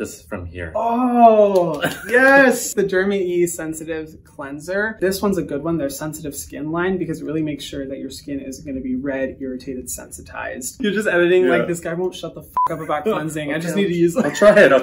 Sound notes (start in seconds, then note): 1.5 claps; 12.5 beep